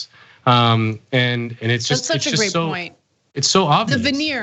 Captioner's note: cough